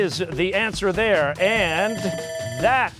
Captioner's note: bell ringing